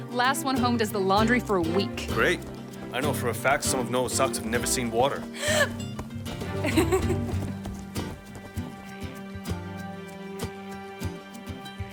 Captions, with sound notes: - Last one home does the laundry for a week. - Great. I know for a fact some of Noah socks have never seen water. (Evelyn gasps) (Evelyn laughs)